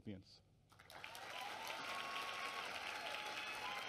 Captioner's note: applause